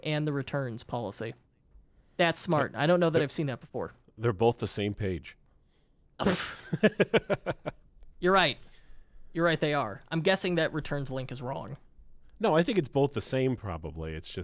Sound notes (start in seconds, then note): 6.2 chuckling